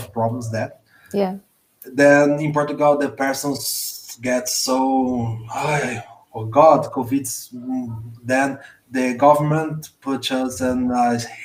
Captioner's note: exasperated sounds